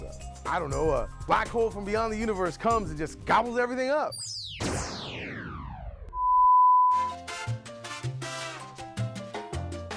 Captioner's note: electric tone is heard